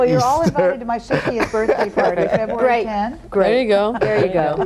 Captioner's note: mumbling and laughing